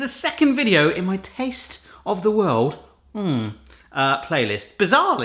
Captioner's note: moaning